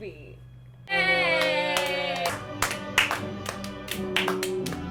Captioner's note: clapping